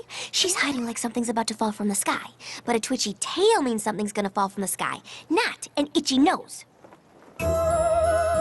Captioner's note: humming